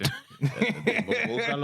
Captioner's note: laughing